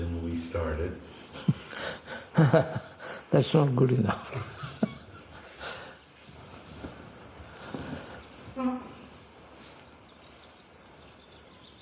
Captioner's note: laughs